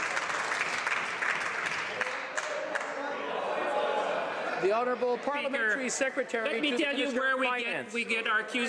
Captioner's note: some Applause